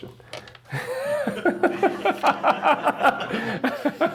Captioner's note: chuckling